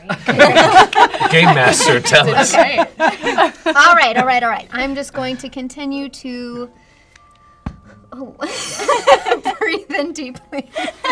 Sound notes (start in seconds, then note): 0.0 laughter; 7.7 pop; 8.5 laughter